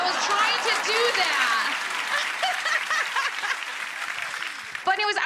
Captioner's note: audience applauds